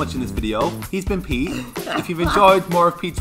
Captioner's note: laughs